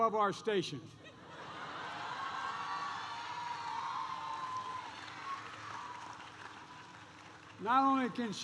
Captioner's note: applause